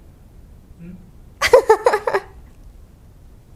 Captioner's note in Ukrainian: сміх